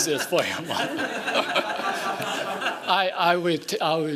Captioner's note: laughing